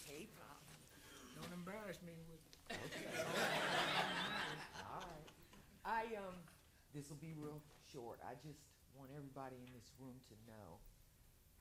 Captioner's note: laughter